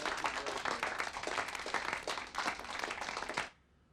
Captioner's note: crowd clapping